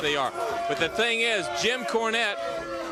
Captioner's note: crowd chatter